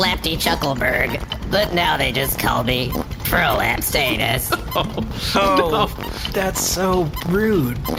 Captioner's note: laughing